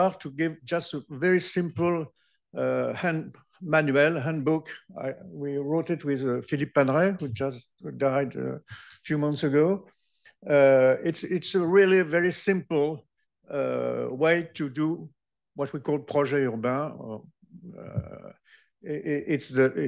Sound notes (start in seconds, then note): 17.5 french